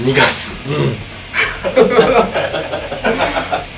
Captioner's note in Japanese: 笑い